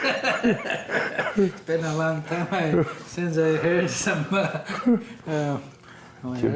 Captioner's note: laughing